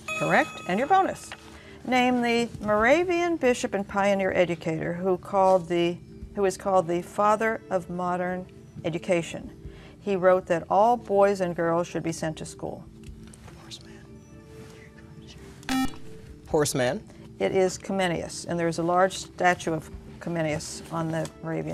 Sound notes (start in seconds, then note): 12.3 whispering